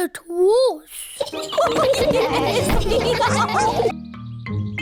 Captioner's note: all giggle